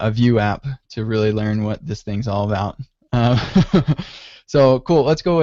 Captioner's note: laughs